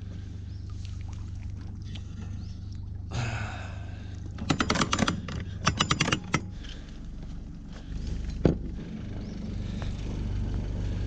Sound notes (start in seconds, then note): 3.1 sighs; 5.6 chain rattles